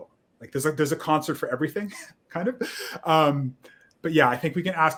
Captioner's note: laughs